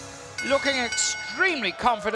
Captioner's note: bell rings